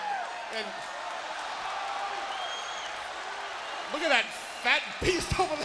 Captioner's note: crowd cheering